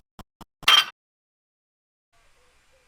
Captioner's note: clank